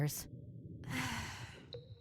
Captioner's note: sighs